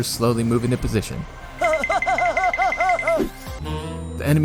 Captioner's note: giggles like an idiot